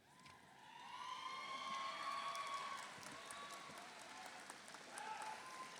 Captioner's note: audience cheers; audience applauds